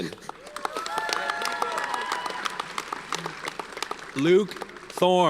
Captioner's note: audience cheers and applauds